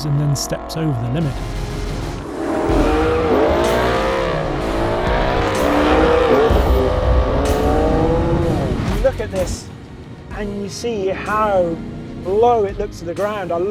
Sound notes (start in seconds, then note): 2.8 engine revving